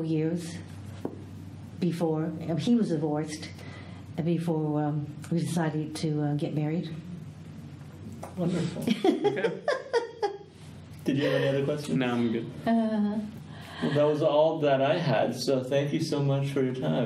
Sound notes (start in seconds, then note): 8.5 laughs